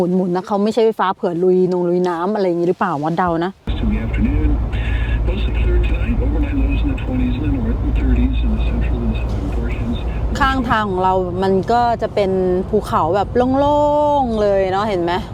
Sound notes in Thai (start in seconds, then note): 3.1 เสียงจากวิทยุ